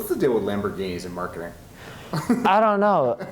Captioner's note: laughs